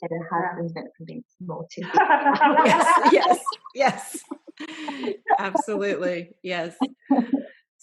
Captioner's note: laughter